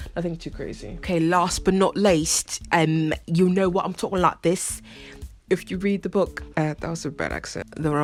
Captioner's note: British accent